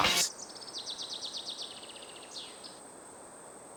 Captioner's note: birds tweeting